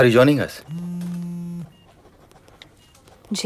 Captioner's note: Phone vibrating